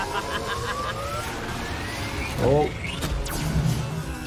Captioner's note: robot laughing